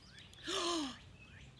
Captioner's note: gasp